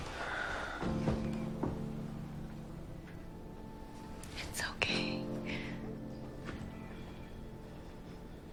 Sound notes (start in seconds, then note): 0.2 Nick exhales; 4.6 whispering